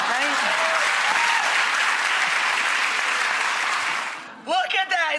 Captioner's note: audience clapping and cheering